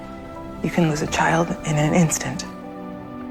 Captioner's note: voiceover